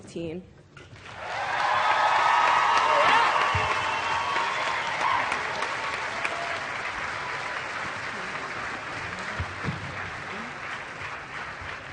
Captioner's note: cheering and Applause